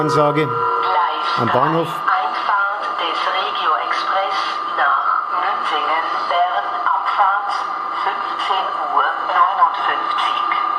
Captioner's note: gong